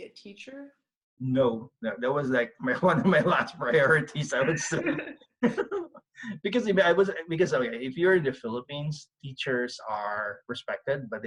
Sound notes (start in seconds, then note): 7.0 both laugh